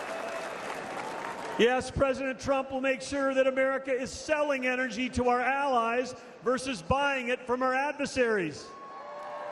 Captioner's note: applause